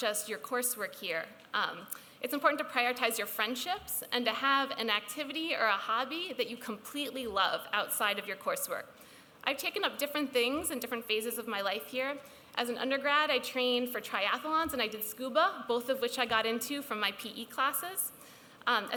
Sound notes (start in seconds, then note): none